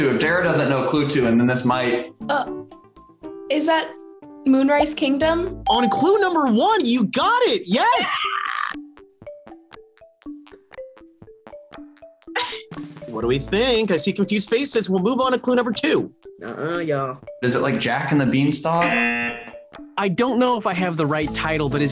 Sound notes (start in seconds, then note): 5.7 bell rings; 12.4 laughs; 18.8 buzzer rings